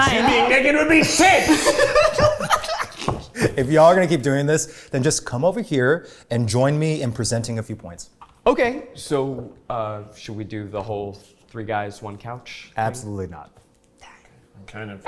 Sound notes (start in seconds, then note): 0.8 laughs